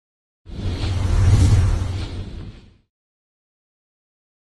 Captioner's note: logo swooshing